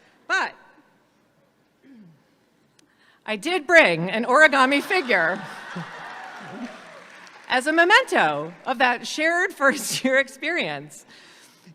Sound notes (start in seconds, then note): 4.6 audience laughs and applauds